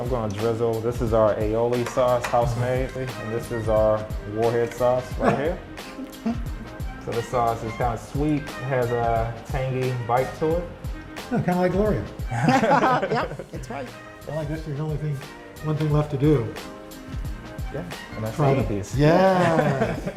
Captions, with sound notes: I'm going to drizzle, this is our aioli sauce. House made. This is our warhead sauce right here. This sauce is kind of sweet. Has a tangy bite to it. - Kind of like Gloria. (laughter) - Yep! That's right. - One thing left to do. - Gonna eat these. - Yes!